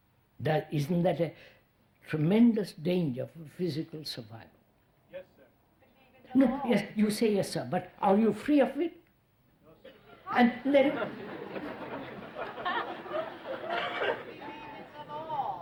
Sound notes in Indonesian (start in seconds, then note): 9.8 Tertawa